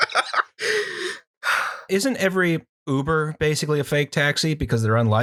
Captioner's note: laughter